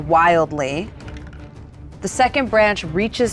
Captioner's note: die rattles